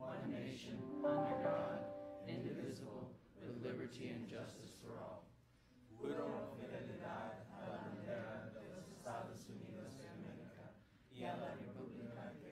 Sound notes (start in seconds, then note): 6.2 speaking in Spanish